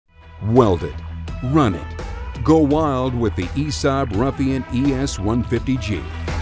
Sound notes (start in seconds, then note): 0.4 voiceover